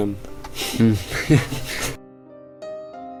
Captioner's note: laughter